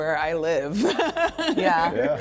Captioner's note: laughing